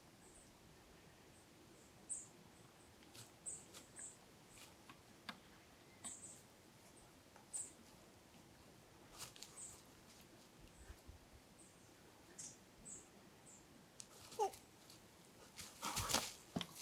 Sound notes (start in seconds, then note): 14.4 chirps; 16.3 rustling leaves